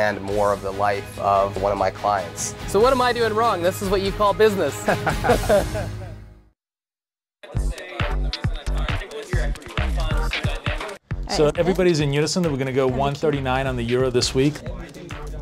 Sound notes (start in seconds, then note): 4.8 laughs